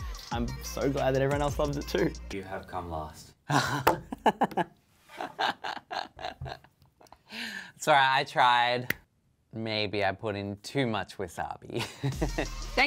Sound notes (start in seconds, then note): 3.4 laughing